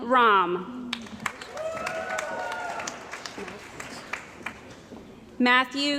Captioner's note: cheering & Applause